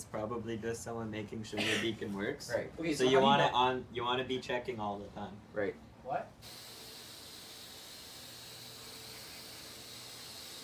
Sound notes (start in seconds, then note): 6.4 whirring